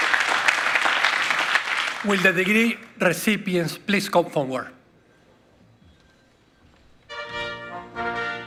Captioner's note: applause